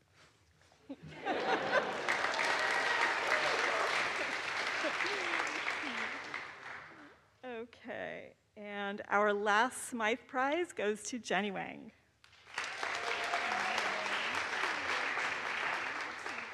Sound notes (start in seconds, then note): 1.2 audience applauds; 1.2 laughs; 12.3 audience applauds